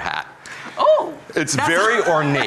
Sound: gasp

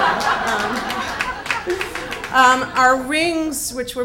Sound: audience applauds; audience laughs

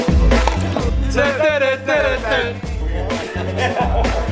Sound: humming

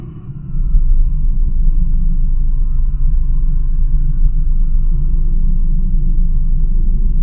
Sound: low hum

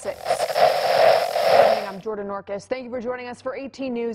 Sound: Static

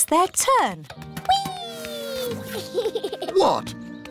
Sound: laughs

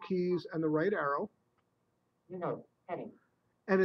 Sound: software talking

